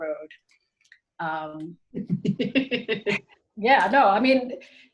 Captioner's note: laughs